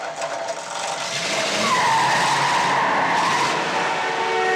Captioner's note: tires squealing